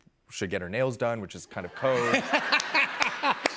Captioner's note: laughter